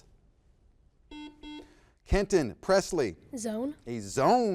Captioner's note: buzzer beeps